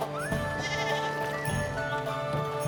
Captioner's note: sheep bleating